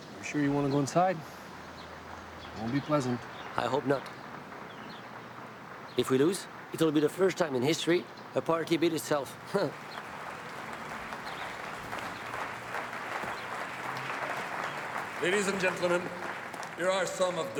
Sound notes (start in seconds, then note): 9.3 audience applauding; 9.6 laughs